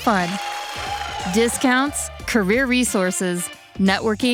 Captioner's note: audience cheers